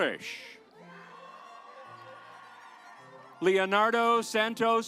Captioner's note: audience applauds